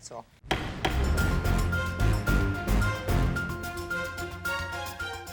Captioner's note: judge bangs gavel; lively theme music